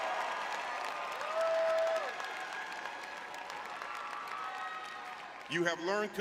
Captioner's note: audience cheering